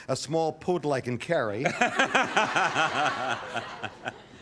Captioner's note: laughter